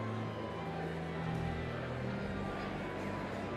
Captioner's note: none